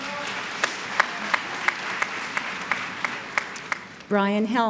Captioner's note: applause